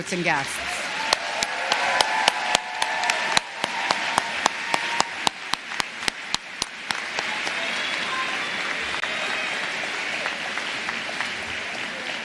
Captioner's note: applause